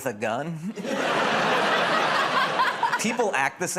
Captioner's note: laughter